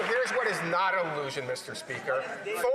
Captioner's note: some Applause